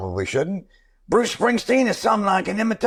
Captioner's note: Impersonating Springsteen